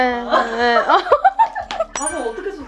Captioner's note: laugh